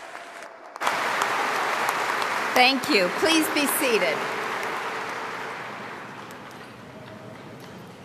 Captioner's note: applause